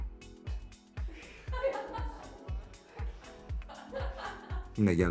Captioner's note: laughing